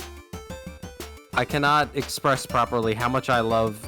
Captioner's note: none